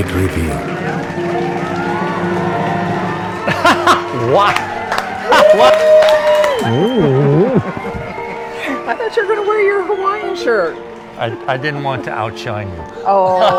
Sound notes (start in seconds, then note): 0.0 drum roll; 2.9 chuckles; 6.2 clapping hands; 13.0 laughs